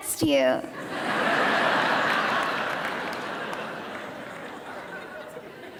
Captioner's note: audience laughing